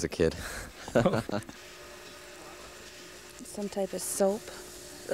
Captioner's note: laughing